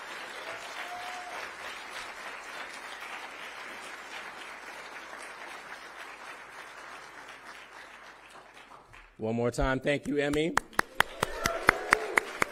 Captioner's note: cheering; applause